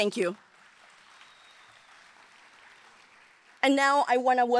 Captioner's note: audience applauding